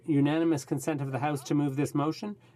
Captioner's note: speaking French